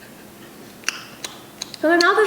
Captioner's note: chewing noises